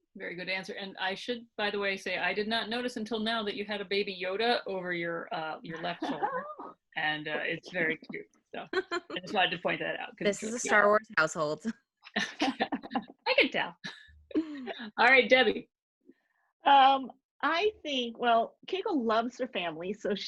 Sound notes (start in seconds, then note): 5.7 laughing; 8.7 laughing; 12.2 laughing